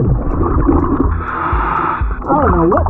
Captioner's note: oxygen bubbling in water; oxygen tank hissing